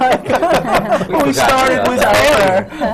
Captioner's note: laughter